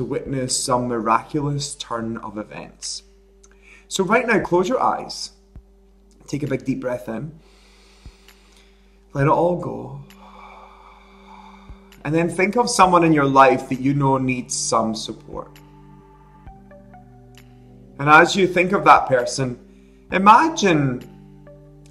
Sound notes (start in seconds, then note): 7.4 breathing in; 10.0 breathing out